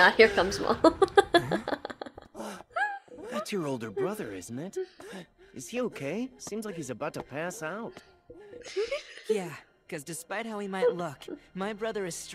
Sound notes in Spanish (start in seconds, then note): 1.9 risa; 4.7 Sus risitas sin poder parar